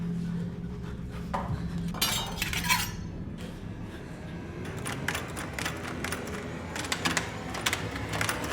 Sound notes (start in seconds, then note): 2.0 knife clanks